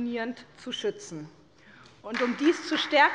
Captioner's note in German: Beifall bei der SPD